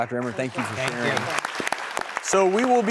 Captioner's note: crowd applauses